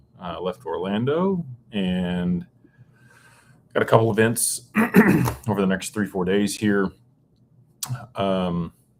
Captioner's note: clears throat